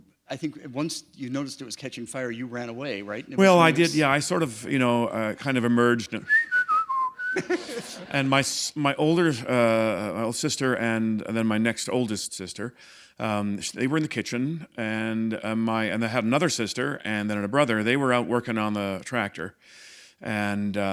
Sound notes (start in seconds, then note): 6.2 whistling; 7.2 laughter